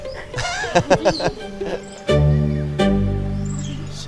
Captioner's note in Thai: เสียงหัวเราะ